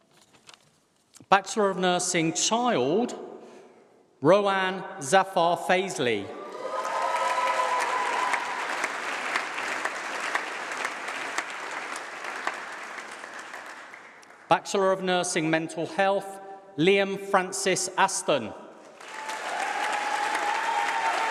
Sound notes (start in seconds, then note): 6.0 applause